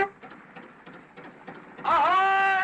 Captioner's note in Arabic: صوت بوق; صراخ